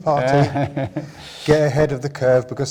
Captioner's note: chuckles